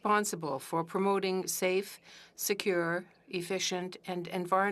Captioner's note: speaking French